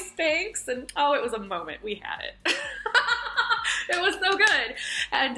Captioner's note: laughs